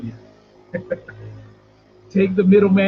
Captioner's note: laughing